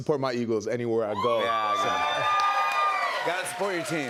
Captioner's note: cheers and applause